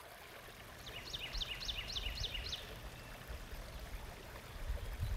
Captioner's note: water flowing; birds tweeting